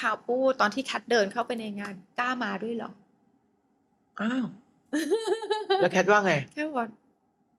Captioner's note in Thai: เสียงหัวเราะ